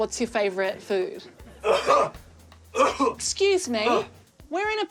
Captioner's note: coughs